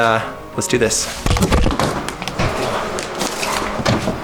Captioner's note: shuffling